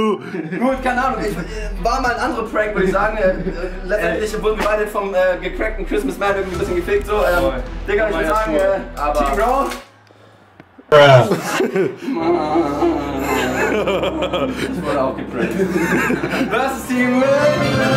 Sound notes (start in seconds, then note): 13.7 lachen